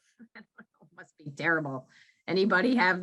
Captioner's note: chuckles